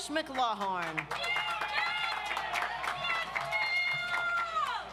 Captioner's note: audience applauds